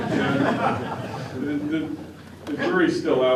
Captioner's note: laughter